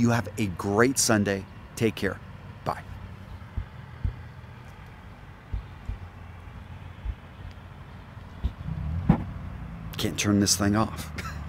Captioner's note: laughs